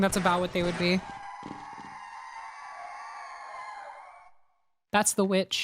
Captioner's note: distant wailing